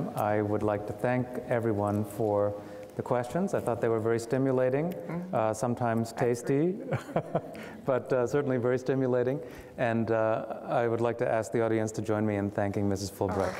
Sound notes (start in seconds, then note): 7.0 laughing